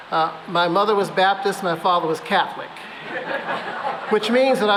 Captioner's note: laughter